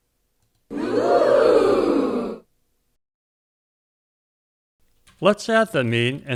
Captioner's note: crowd saying "ooh" sound effect